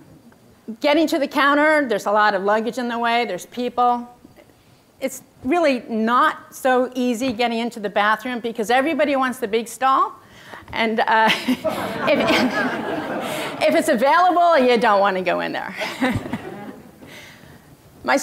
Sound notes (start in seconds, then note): 11.5 audience laughter